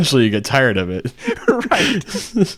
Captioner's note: laughing